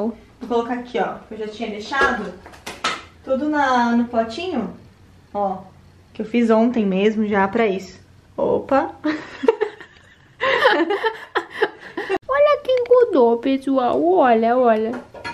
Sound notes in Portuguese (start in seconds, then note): 9.0 Risos